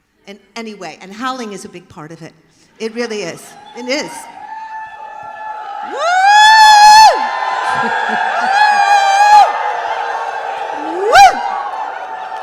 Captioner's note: cheers